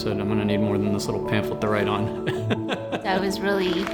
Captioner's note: laughs